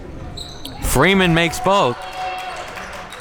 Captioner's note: audience cheering